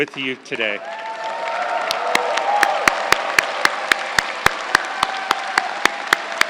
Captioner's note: crowd cheering and applauding